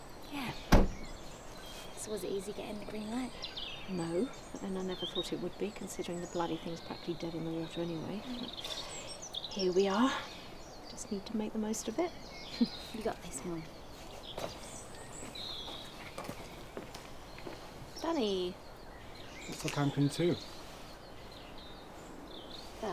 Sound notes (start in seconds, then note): 12.4 chuckles